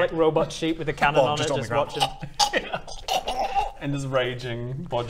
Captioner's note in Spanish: crrrrkkrgckcgkk